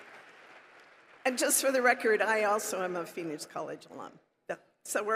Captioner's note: applause